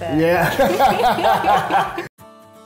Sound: laughing; calm music

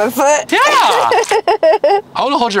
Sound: laughing

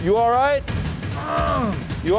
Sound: groans

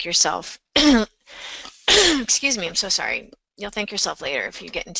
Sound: coughs

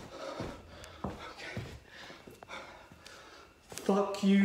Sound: Chad breathing heavily

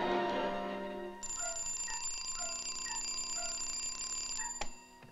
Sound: alarm clock ringing

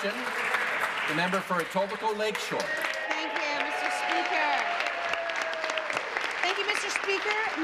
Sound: applause

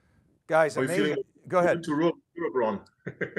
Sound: laughs

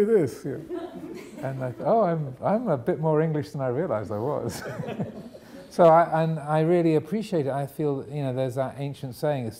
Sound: audience laughing; audience laughing

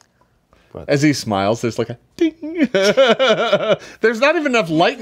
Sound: laughs

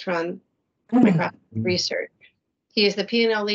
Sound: audio distortion

